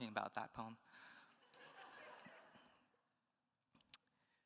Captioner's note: attendees laughs